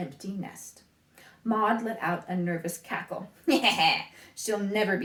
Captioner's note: laughs